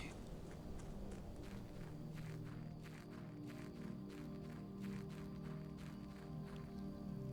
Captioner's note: footsteps